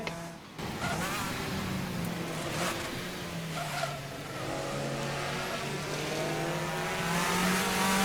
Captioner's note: racing Sound